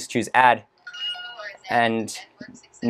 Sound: system Speaking in Background

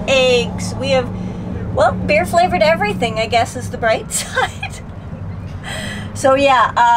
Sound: giggles

